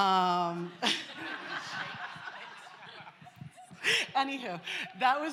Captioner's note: laughter